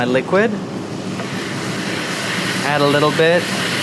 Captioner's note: sauce sizzling